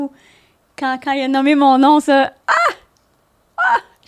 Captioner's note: in french